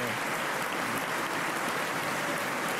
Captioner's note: applause